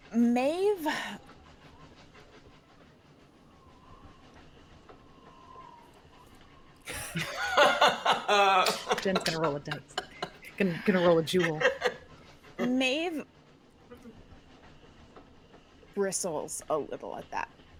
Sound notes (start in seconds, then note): 6.9 laughs